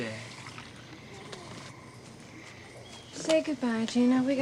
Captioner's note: birds chirping